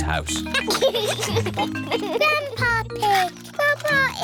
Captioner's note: giggles